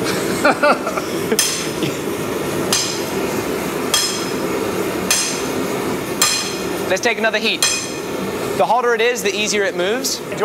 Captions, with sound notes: (both laugh) (metal clanging) Let's take another heat. The hotter it is, the easier it moves.